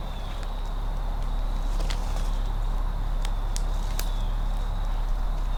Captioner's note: insects chirping